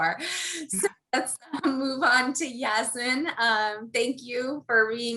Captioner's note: laugh